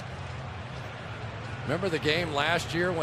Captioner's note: booing